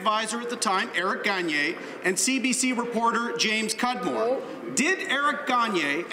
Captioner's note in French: voix de l'interprte